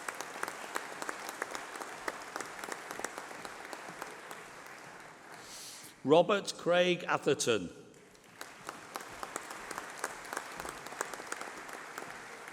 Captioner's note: applause